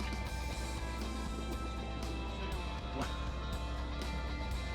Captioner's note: crew chatting